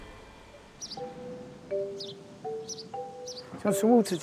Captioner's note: birds chirping; bright music